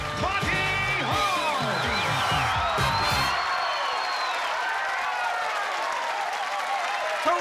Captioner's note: cheering and applause